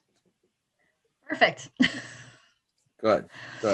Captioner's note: chuckles